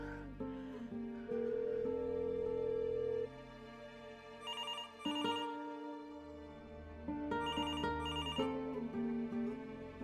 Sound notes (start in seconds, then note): 1.1 phone ringing